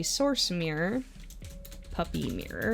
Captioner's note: typing